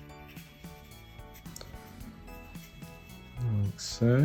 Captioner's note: pen drawing